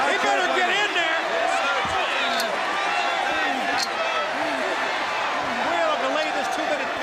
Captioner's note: crowd cheering